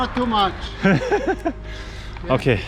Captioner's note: hysterical laugh